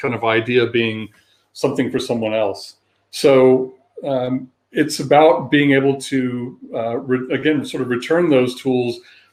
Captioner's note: erm